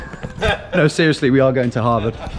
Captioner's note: laughs